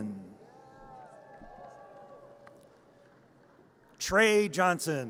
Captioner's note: audience cheers